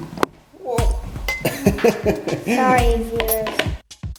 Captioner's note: child mumbling; clunking